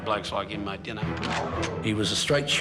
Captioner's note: gun cocks